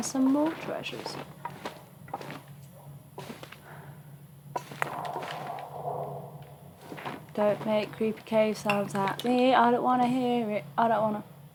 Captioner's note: exhale